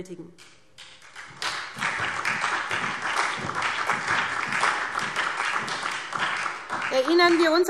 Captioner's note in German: Beifall SPD, BÜNDNIS 90/DIE GRÜNEN und vereinzelt CDU